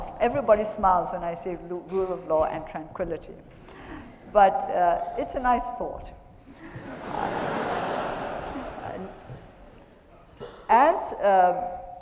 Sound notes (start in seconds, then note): 6.5 attendees laughing